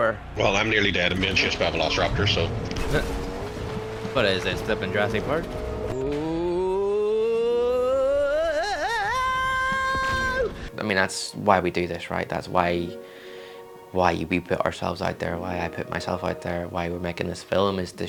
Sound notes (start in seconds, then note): 6.1 oooh of building excitement getting louder in time with countdown